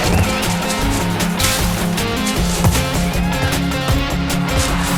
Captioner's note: water splashing